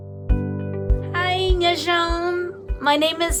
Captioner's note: gentle music; speaking in a foreign language